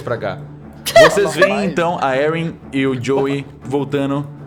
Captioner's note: laughter